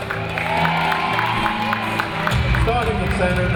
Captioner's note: audience applauding and cheering